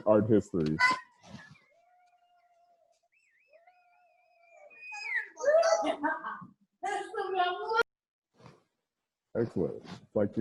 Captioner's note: cheers in background